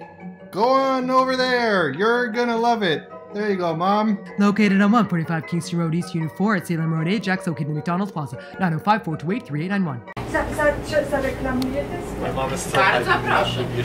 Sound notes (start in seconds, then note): 4.1 as fast talking voice over